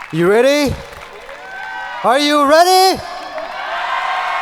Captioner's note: audience cheering